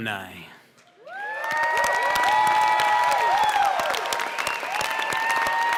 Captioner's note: cheers and applause